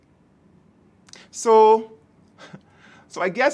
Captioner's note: chuckles